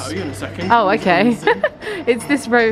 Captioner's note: laughs